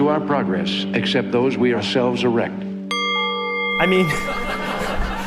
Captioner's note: laughter